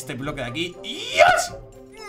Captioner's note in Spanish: Emocionado